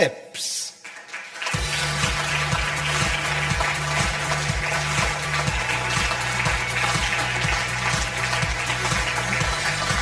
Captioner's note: audience applause; upbeat music